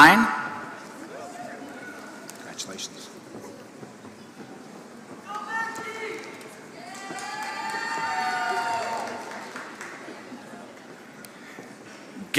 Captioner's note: applause